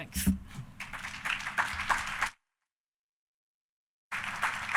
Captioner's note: audience applauding